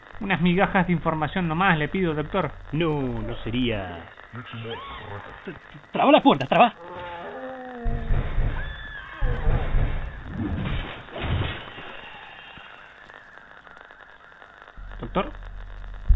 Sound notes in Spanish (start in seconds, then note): 4.6 gritos en el fondo; 6.8 rugidos y golpes